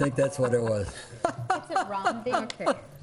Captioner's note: laughing